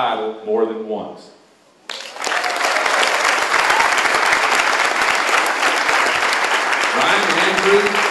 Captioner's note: applause